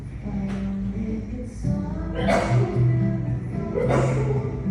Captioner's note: child sneezing